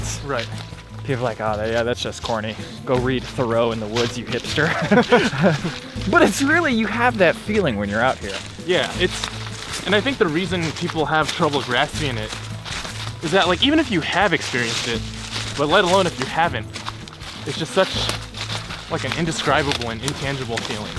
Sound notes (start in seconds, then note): 4.4 both laugh